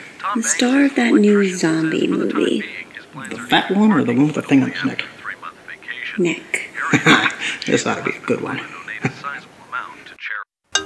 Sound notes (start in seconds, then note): 6.7 Amber's Dad chuckles